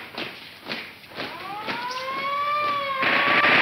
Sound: siren wails; gun popping

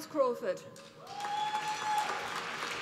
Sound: applause

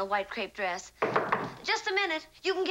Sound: knocking at door

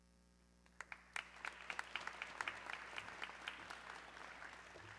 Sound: audience clapping

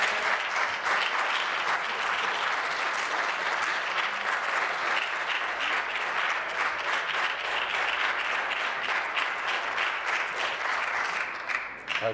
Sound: applause

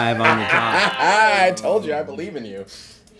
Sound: laughing

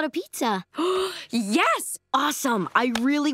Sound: gasping

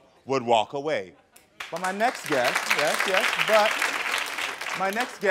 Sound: audience applauding

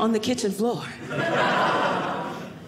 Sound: audience laughing

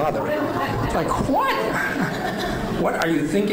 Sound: laughing

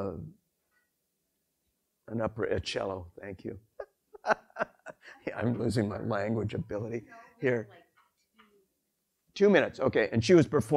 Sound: laughs

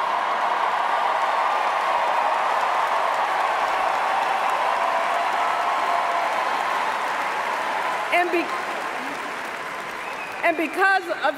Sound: cheers, applause

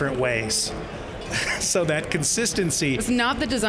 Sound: laughs

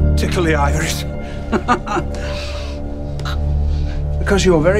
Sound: chuckles

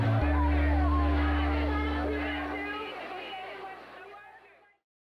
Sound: clip: applause, chanting

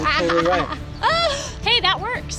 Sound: laughs

